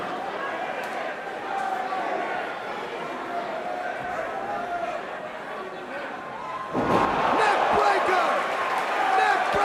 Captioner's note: crowd chatter